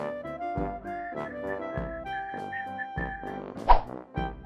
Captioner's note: whistling